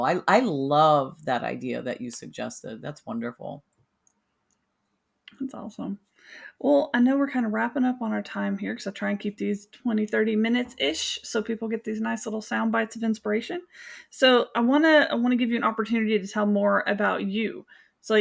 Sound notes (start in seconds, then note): none